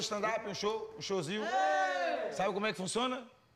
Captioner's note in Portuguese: aclamando